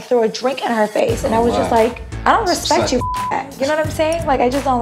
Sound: beep

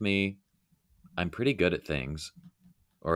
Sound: none

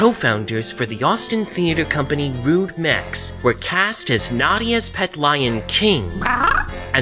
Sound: King Growls

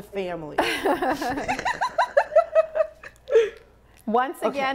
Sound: women laughing

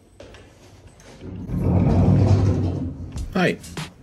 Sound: sound of door sliding and street sounds

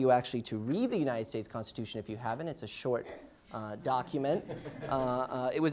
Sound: laughter

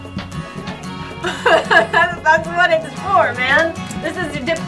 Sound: laughs

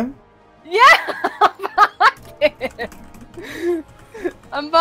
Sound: laughing

